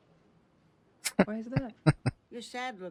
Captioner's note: chuckling